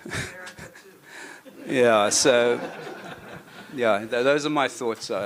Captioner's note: laughter